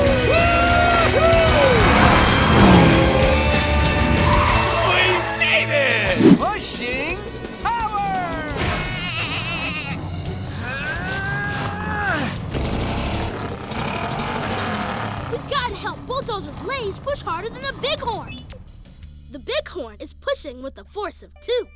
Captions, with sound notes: Whoo-hoo! We made it! Pushing power! [bleating] [straining] We've got to help Bulldozer Blaze push harder than the bighorn. The bighorn is pushing with a force of two,